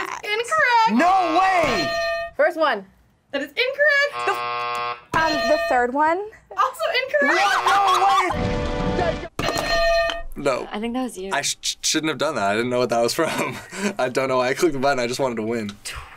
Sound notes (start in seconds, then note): 1.6 bell rings; 4.0 buzzer rings; 5.2 bell rings; 9.4 bell rings; 13.8 laughs